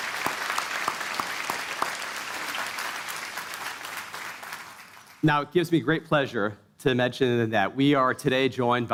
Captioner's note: applause